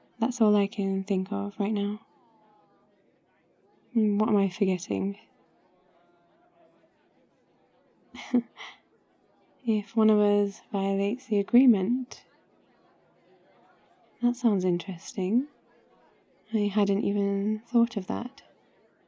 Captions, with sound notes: that's all I can think of right now what am I forgetting? *laughs* if one of us violates the agreement? that sounds interesting... I hadn't even thought of that